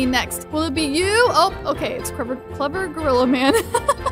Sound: laughs

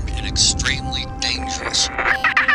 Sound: radio static; sinister laughter over radio

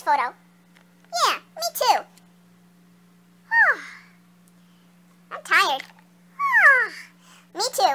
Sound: yawns; yawns again

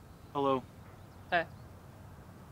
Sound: none

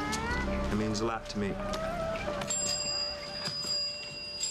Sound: bell rings

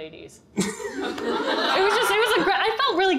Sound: audience laughter

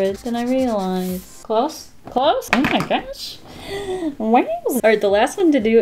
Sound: deep breath

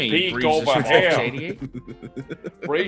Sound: laugh

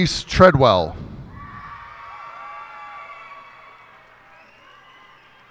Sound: cheers and applause

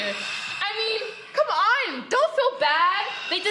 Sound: loud breathing

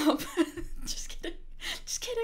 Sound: chuckling

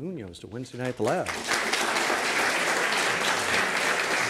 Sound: applause

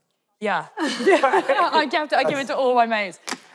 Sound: laughing

